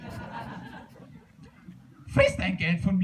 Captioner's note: laughter